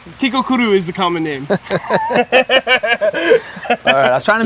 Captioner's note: laugh